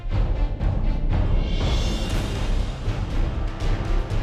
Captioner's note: none